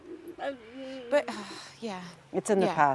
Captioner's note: sighs